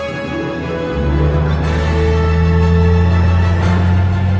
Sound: jet engines starts

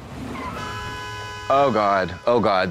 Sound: tires screeching; horns honking

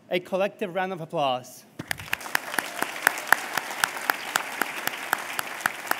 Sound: applause

